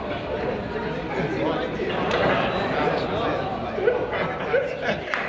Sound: crowd chatters and laughs

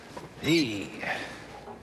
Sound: sighs

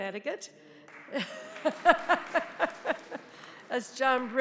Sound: audience applauding

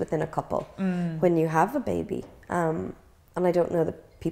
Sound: gasps

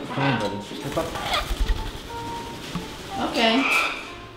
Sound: wings flapping; bird squawk

